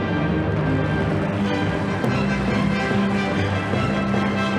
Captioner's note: audience applauding